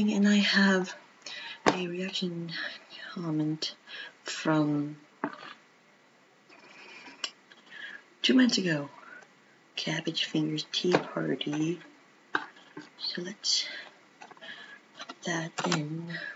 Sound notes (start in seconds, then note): 5.1 silence; 6.0 more silence